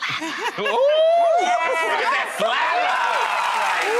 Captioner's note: cheering